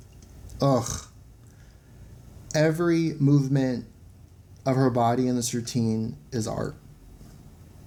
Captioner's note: utterance of pleasure